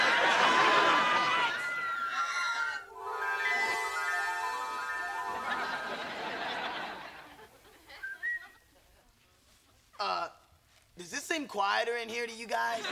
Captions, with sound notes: Relax! [whistling] Uh… does it seem quieter in here to you guys?